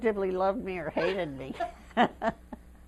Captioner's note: laughter